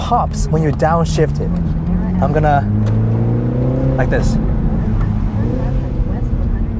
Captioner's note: downshift and engine pops